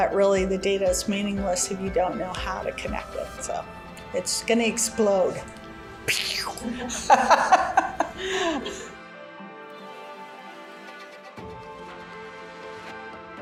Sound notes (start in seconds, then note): 6.1 laughing